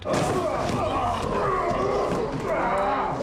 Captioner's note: all grunting